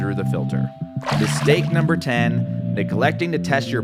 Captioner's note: water splashes